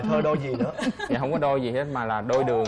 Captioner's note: laughing